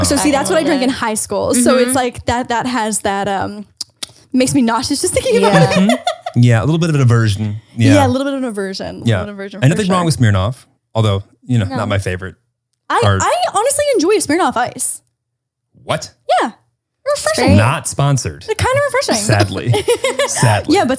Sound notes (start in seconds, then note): 5.1 laughs